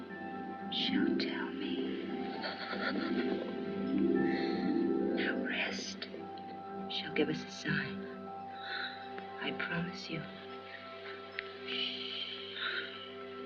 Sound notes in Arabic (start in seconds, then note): 2.5 تشهق ليدي هالوران; 11.5 ششش